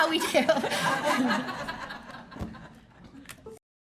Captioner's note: laughing